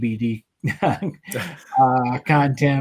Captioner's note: laughs